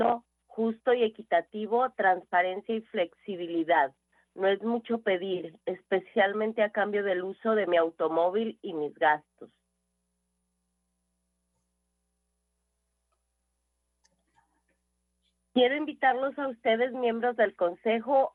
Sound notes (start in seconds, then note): 7.5 speaking foreign language